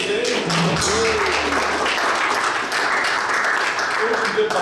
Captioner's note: audience applauds